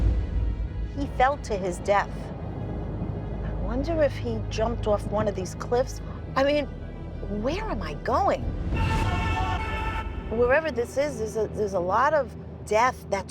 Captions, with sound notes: He fell to his death. I wonder if he jumped off one of these cliffs. I mean, where am I going? [ghostly screaming] Wherever this is, there's a lot of death that took place here.